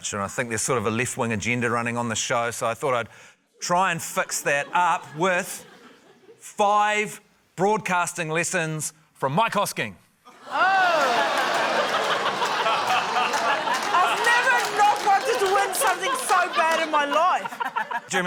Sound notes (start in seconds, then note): 10.3 laughter, scattered applause